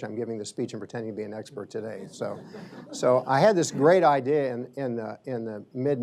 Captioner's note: laughter